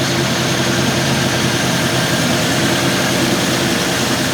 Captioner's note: engine revving